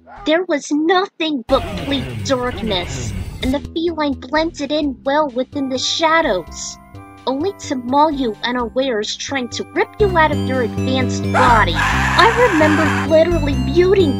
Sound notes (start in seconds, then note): 11.7 screaming